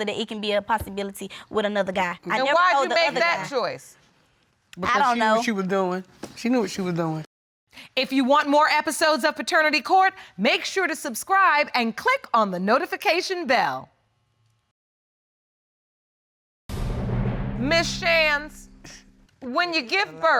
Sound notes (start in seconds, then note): none